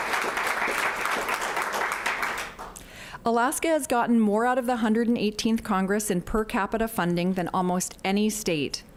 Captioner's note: applause